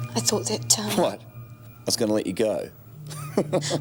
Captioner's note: laughs